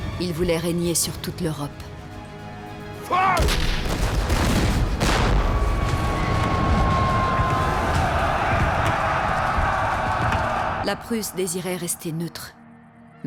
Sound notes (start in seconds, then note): 3.5 cannon blasts; 5.8 soldiers bellowing